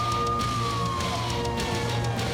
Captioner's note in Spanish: sonido de sirenas